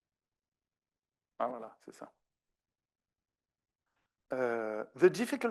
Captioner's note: speaking French